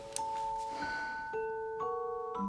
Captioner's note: sighs